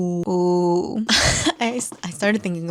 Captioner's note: laughs